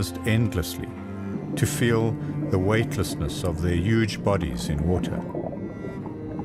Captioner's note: animals calling